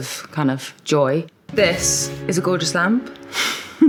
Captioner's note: chuckles